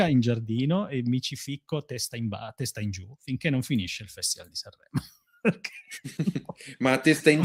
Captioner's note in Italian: risate